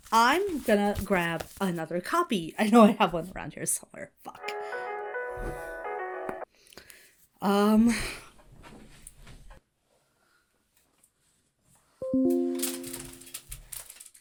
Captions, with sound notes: I'm gonna grab another copy. I know I have one around here somewhere. Fuck. (ringtone plays) Um... (Hana sighs) (notification dings)